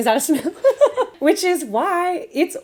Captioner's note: laughing